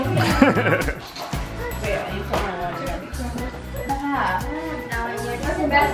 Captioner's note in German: lacht